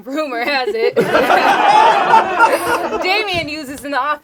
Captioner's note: group laughs